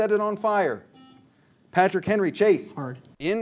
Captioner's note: buzzer sounds